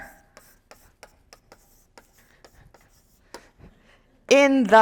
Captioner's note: chalk tapping and scratching